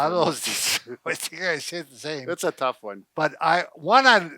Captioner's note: chuckles